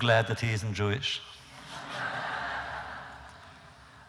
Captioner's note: laughter